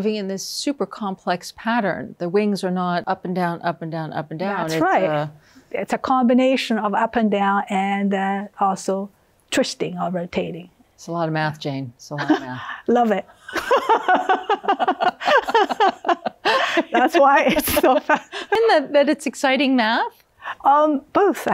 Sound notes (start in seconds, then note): 13.4 laughs; 16.4 both laughing